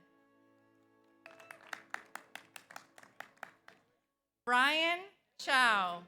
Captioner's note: audience applauds; audience cheers